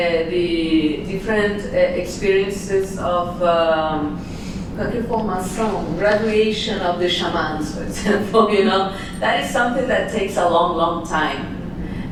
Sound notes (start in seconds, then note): 4.7 non-english speech